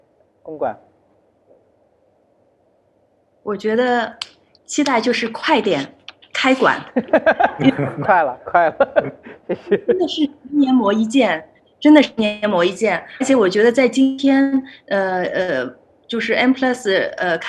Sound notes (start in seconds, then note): 6.9 laughter; 6.9 laughs